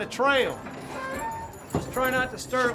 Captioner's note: saloon doors creaking